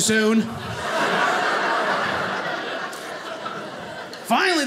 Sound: audience laughing

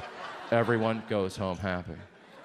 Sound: audience laughs

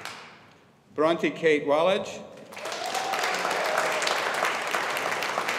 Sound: audience applauding

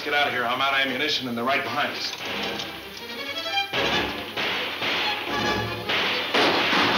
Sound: dramatic music; guns banging

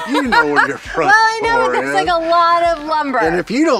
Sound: laughs

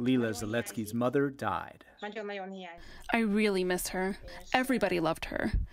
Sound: through translator

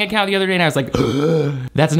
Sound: gasping

